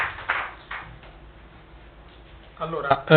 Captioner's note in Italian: Applauso